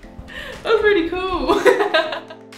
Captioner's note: laughter